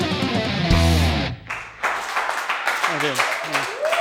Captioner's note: applause